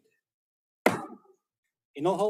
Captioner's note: gavel bangs once